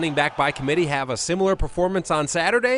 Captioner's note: crowd